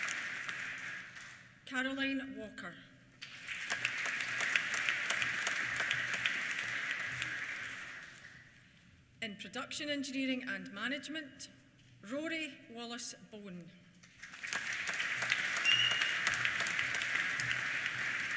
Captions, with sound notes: Caroline Walker. (APPLAUSE) In Production Engineering and Management, Rory Wallace Bone. (WHISTLES) (APPLAUSE)